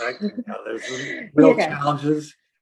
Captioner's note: soft laughing